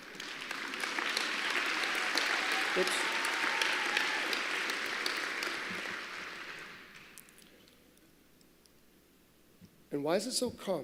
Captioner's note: applause